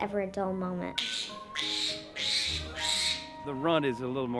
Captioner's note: squealing